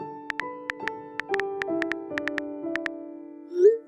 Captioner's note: typing clicks